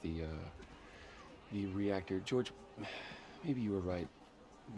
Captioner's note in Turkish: İç çekmek